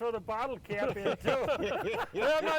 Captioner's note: laughing